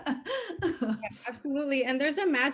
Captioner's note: laughing